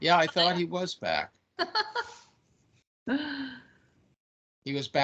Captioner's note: laughing